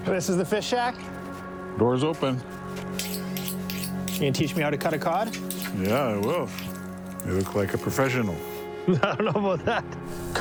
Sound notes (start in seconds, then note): 3.0 knife clicking; 8.9 laughs